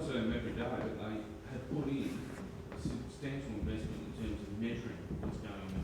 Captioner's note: speaks distantly